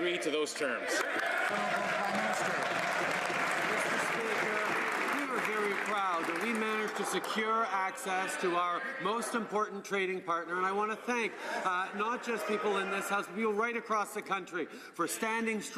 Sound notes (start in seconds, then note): 4.0 some Applause